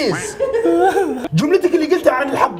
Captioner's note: laughing